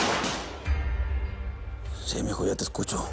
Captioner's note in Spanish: Disparos